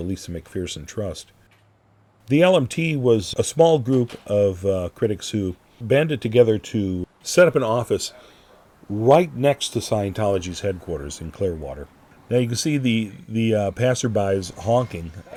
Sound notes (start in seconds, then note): none